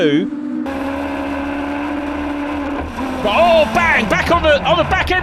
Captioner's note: engines roaring